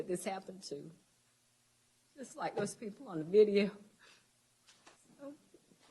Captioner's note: sobbing